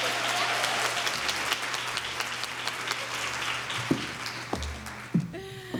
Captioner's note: applause